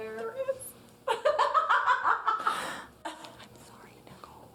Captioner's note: laughing